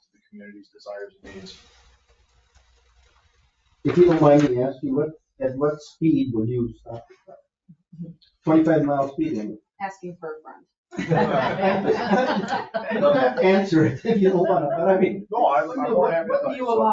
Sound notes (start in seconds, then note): 10.9 group laughing